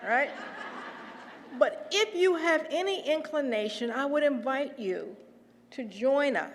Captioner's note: laugh